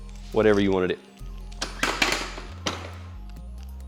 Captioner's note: clattering